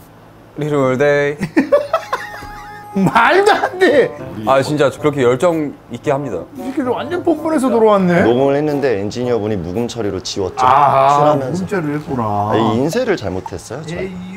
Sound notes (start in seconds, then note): 1.6 laughing